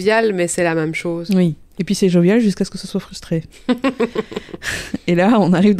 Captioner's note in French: rires